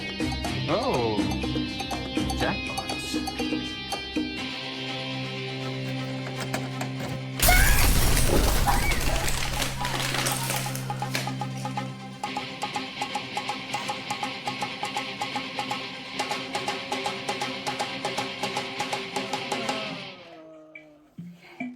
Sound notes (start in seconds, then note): 7.4 man screams; 7.5 explosion booms; 12.2 pounding rock music; 19.6 man groans